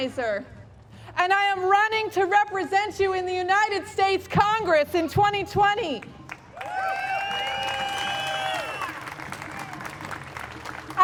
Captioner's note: applause